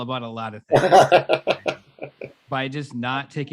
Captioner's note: laughing